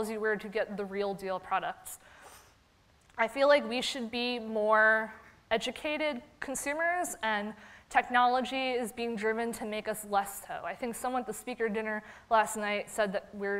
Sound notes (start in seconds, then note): none